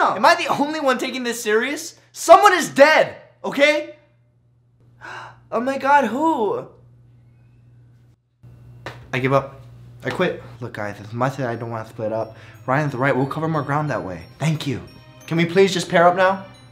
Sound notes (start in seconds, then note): 5.0 gasping